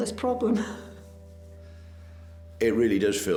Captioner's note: laughing